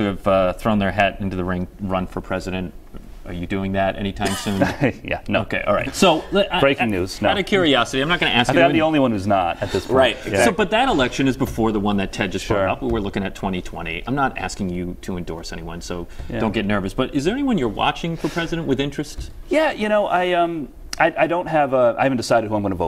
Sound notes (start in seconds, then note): 4.2 laughter